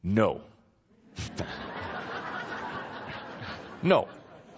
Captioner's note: laughter